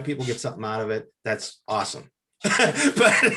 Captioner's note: laughs